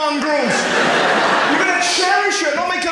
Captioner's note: audience laughs